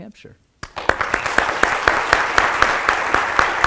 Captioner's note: applause